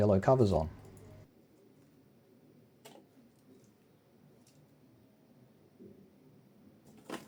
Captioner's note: silence